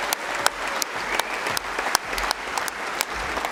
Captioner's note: applause